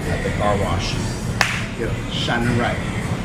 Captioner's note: claps